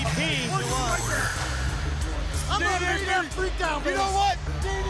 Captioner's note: crowd chatter